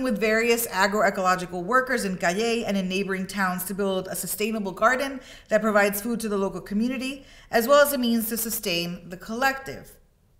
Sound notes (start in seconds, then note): none